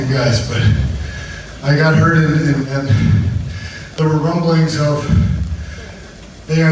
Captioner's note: speaks breathlessly